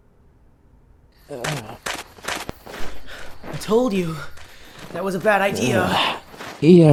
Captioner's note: pant